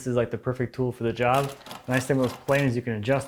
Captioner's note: blade on wood rhythmically scraping